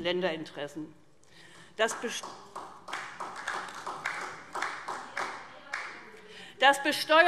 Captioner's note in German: Beifall SPD